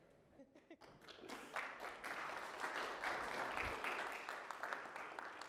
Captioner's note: applause